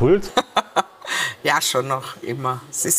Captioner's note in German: lacht